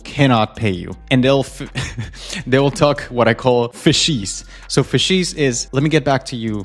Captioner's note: laughs